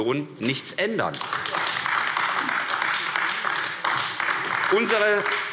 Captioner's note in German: Beifall AfD